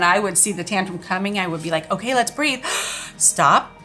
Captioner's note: gasps